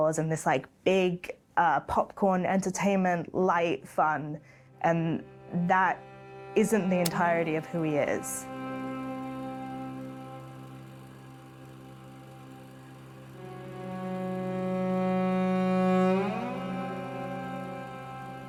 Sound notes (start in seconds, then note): 8.4 somber music; 11.4 film reel spinning